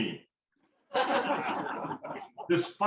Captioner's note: laughter